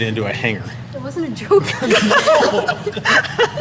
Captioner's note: laughter; nervous laughter